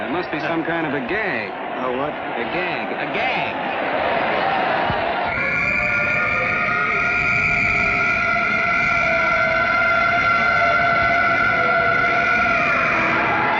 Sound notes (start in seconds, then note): 5.1 sirens blaring; 5.2 whistle blowing